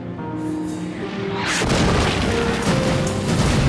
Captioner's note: explosion